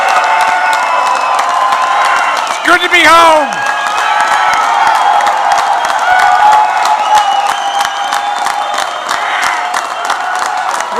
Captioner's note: applause